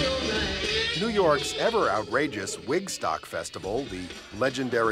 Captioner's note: humm